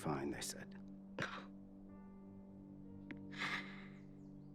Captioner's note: sighs